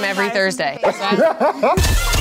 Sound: laughs; hip hop music

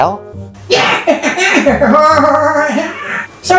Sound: laughing

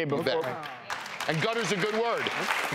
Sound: applauding

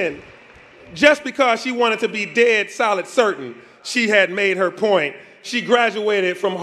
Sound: applause

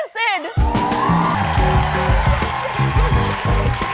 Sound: cheering and applause

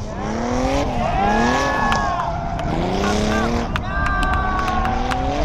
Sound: crowd cheering

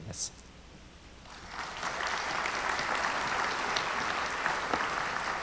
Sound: audience applauds

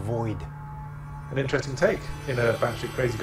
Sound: voiceover

